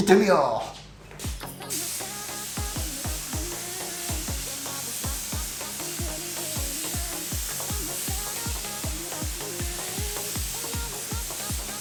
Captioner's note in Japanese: 塗装音